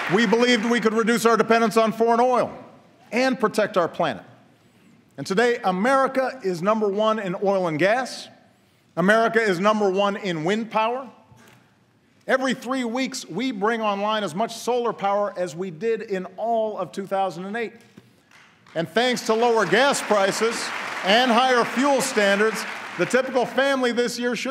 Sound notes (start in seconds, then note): 18.2 applause